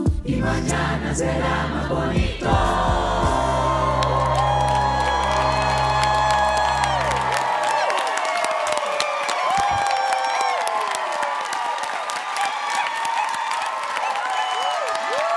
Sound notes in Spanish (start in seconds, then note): 3.4 audience applauds